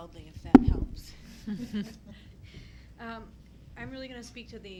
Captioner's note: people chuckling